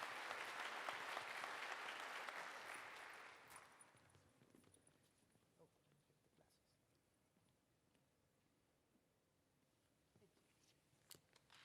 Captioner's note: applause